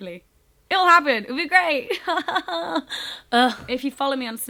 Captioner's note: laughs